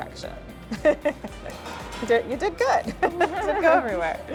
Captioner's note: laughs